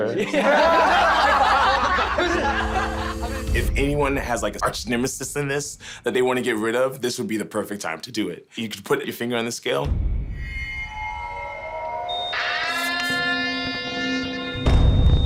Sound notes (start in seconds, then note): 0.0 people laughing; 9.8 suspenseful beat; 12.1 alarm ringing